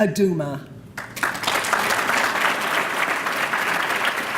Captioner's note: applause